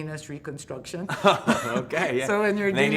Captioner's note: laughing